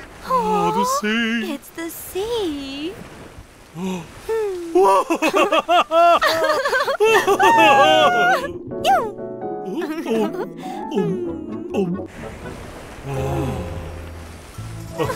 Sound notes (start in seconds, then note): 4.8 laughter